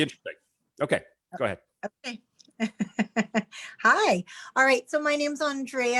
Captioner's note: chuckles